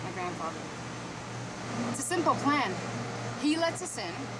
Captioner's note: none